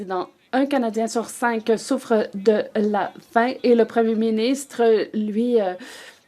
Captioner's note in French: voix de l'interprète